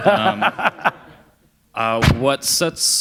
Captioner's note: laughter